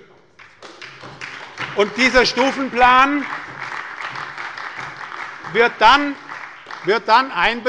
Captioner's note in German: Beifall bei der SPD